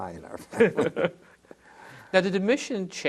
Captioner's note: laughter